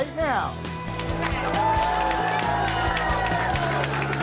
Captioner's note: people cheering